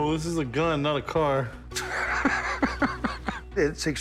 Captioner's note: laughs